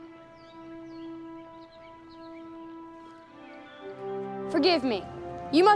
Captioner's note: whispering